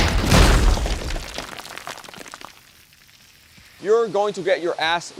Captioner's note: concrete breaking; rubble falling